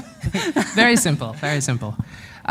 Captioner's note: chuckle